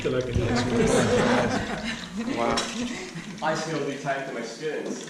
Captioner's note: talking and laughing